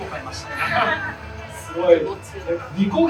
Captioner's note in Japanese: 会場：笑